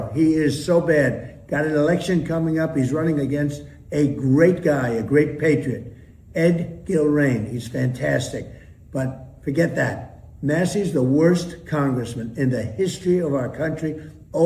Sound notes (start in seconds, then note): none